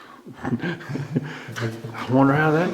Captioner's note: chuckling